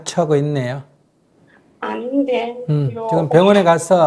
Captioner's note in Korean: 질문자 작은 목소리로